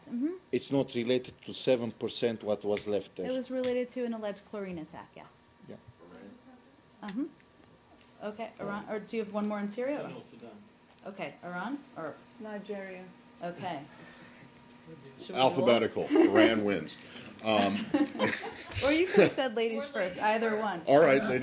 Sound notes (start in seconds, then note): 16.0 laughter